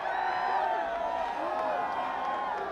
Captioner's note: crowd chatter